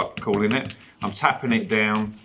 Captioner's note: tapping